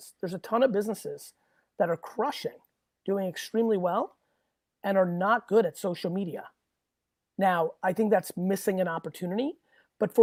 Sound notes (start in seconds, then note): none